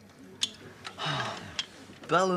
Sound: Sam sighs

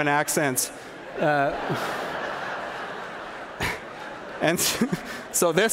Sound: laughter

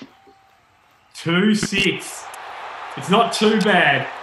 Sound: crowd cheering

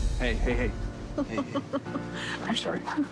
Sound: Auden laughing

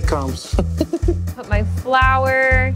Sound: chuckling softly

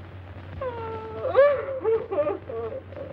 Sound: weeping

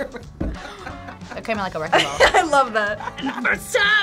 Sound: both laugh; laughs

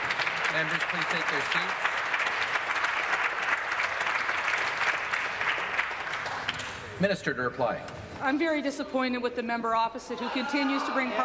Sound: applause

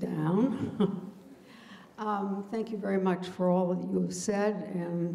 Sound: laughs

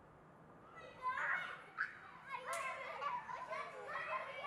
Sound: children shouting

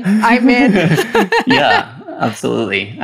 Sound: laughs

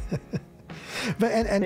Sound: laughing

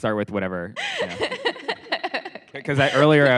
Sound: laughs

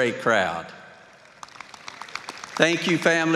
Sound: applause

